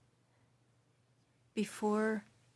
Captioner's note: speaking French